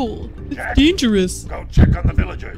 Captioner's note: silly voice